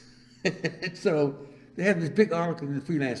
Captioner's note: laughs